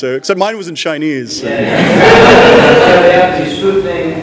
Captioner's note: laughter